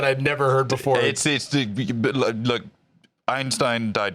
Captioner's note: stammers